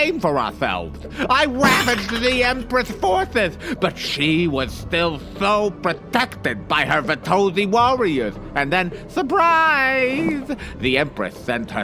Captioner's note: snickers